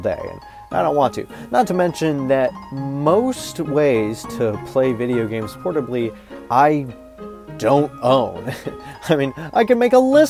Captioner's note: chuckles